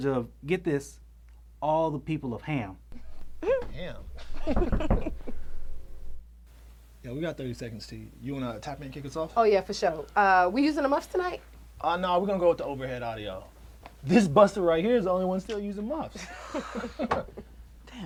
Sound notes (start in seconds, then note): 4.2 Terra laughs; 5.0 glass knocks; 16.1 Terra and Ced laugh